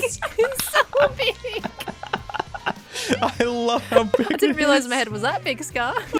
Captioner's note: laughing